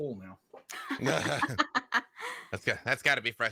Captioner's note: laugh